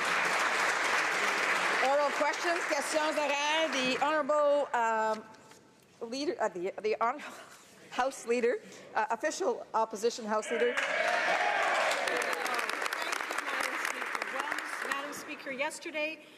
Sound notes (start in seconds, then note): 2.8 applause; 9.4 speaking French